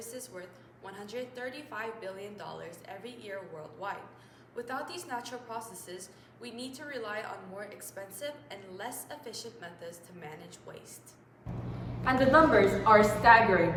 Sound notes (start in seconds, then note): 11.4 voiceover